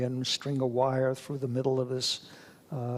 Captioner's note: none